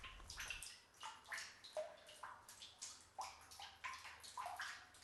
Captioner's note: water leaking continues